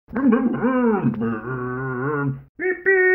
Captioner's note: Scruff makes scooter noises